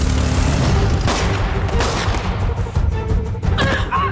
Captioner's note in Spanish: Disparos; Gritos y exclamaciones